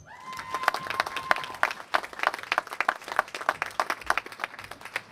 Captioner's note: applause